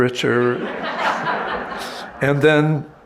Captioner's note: audience laughing